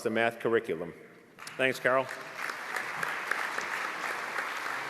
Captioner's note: applause